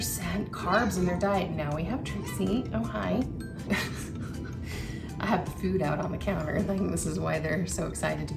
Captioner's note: laughs